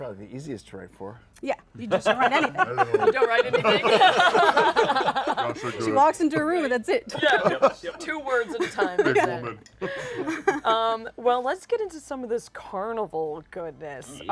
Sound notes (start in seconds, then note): 1.9 laughter